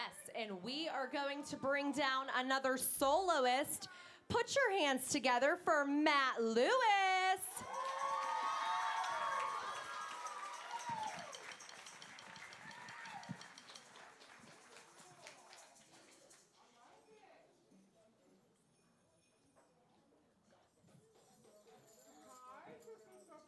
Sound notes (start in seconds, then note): 7.6 applause